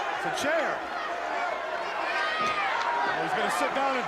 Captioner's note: crowd chatter